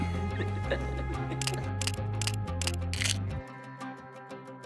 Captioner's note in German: lacht; Kameraklicks